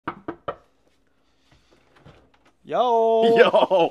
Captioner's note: knocking